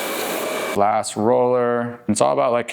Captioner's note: hair dryer blowing